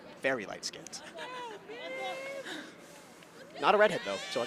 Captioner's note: chuckles